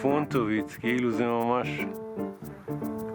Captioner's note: in Hebrew